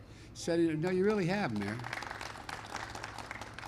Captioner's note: applause